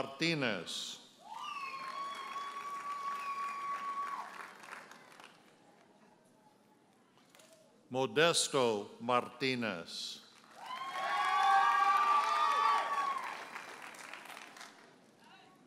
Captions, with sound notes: Mariella Martinez. (audience hollers and applauds) Modesto Martinez. (audience hollers and applauds)